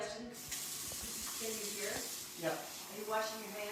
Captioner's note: splashing